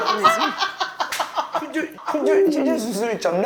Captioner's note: he cracks up a beat later